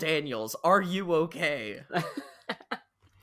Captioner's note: laughs